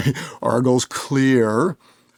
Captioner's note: presenter laughs